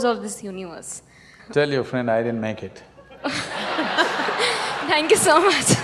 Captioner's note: laughter